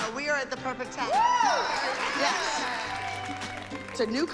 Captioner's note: cheering and applause